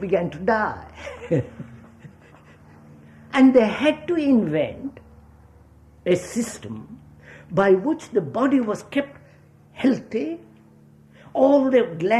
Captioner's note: laughs